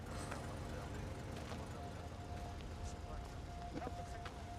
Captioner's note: people chattering